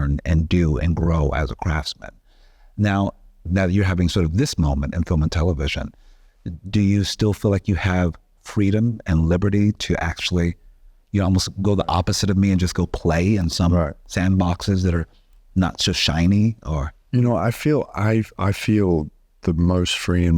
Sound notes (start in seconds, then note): none